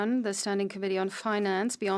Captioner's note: speaking French